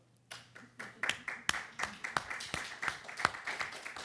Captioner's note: audience applauds